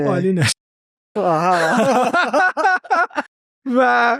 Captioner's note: laughs